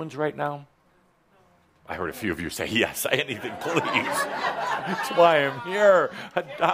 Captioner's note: laughter